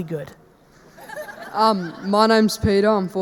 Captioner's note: audience laughing